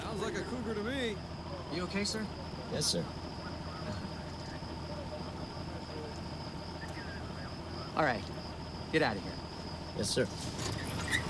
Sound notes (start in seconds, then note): 4.3 insects buzzing